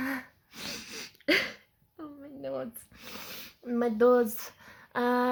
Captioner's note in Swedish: skrattar